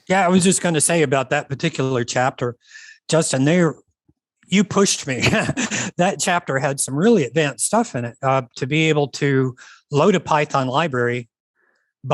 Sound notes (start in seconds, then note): 5.2 laughs